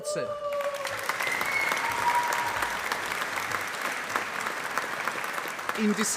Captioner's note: applause